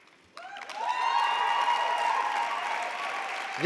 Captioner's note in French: Acclamations et applaudissements